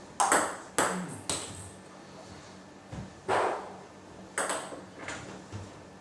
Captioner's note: balls ping pong hitting continues